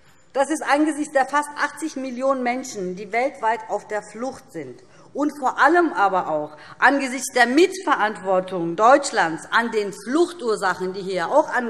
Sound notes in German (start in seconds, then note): none